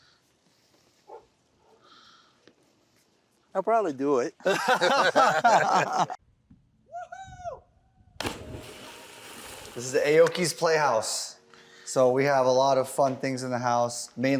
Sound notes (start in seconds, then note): 4.4 both laughing; 8.2 water splashes